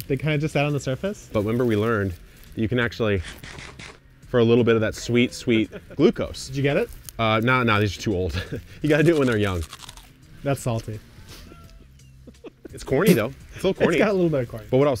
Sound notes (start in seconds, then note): 3.2 cartoon chomp sound